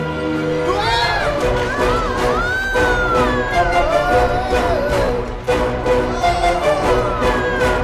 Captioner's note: screams